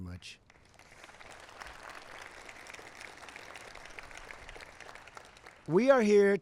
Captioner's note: applause